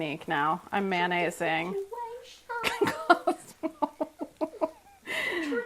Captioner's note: laughs